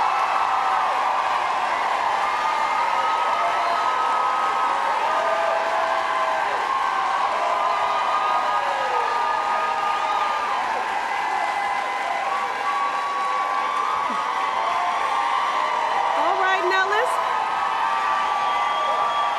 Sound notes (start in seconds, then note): 1.7 applause